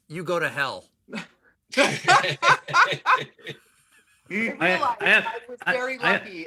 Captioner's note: laughter